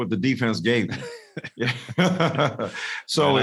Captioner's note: both laughing